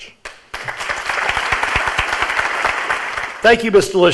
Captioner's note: audience applauds